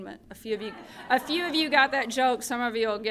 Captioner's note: laughter